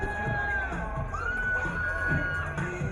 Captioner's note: crowd cheering